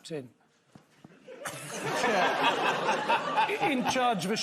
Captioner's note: scattered laughter